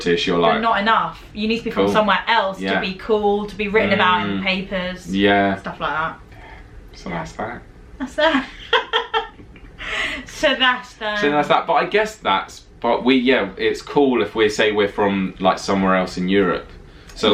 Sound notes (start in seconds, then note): 8.1 laughing